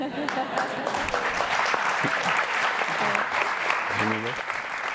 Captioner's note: audience laughing; audience applauding